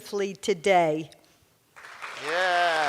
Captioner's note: cheers and applause